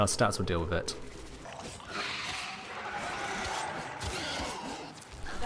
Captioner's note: gutteral screech